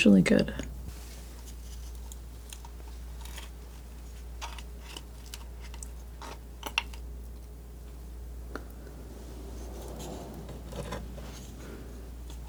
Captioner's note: sniffing